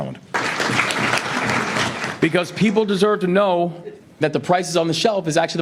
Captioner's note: audience applauding